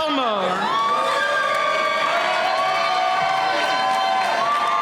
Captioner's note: cheering